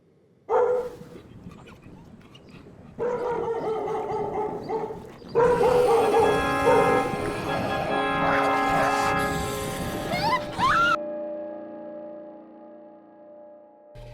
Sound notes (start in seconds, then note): 0.4 dog barking; 4.8 beastly growling; 10.0 child screaming